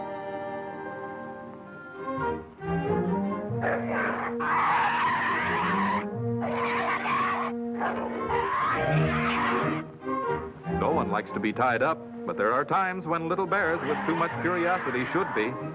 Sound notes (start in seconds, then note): 3.4 snarling